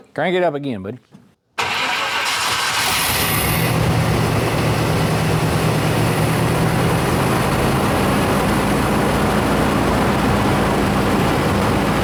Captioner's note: engine Revving